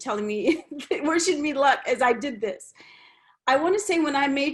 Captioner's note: laughs